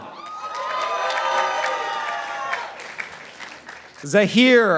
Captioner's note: participants applauding